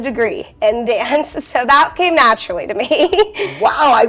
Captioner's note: chuckling